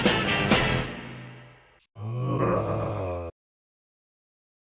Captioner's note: BLU Heavy Groans in pain, dazzily